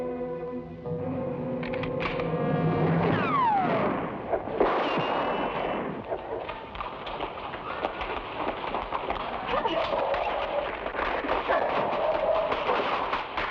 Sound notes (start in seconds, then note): 1.6 gun clicks; 3.0 gunshots blast; 6.2 shoes clack; 11.8 foot thuds